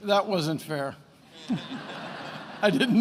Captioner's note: attendees laughing